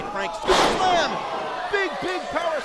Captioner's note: bang